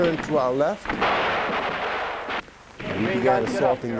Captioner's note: gunshots fired